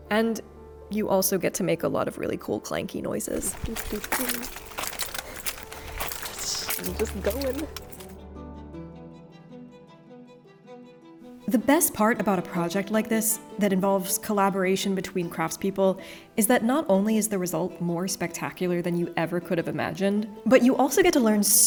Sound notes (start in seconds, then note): 3.3 armor clattering; 3.5 humming; 8.9 gentle music continues